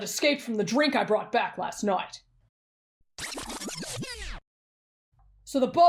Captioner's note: rewind sound